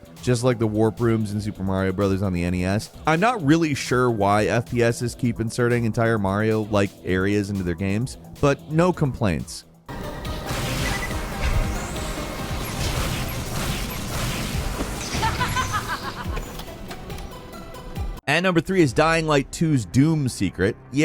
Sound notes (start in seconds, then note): 9.8 intense dramatic music; 10.4 gun blasting; 15.1 character laughing